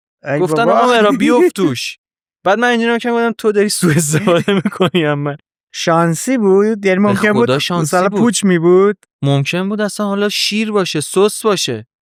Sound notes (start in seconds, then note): 3.8 laughs